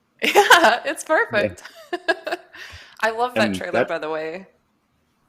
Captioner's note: laughs